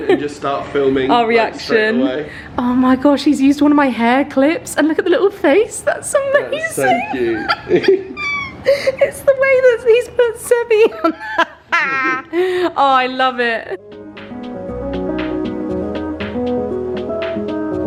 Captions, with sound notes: and just start filming, like, straight away. - Our reaction. Oh, my gosh. He's used one of my hair clips and look at the little face. That's so amazing. - That's so cute. (both laughing) It's the way that he's put Seby. Oh, I love it. (upbeat music)